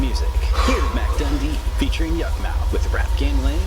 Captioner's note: Mr. X sighs